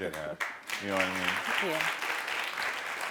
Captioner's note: audience applauding